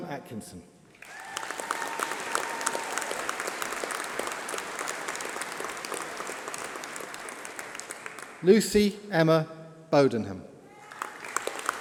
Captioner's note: applause